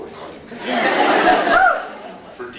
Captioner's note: laughs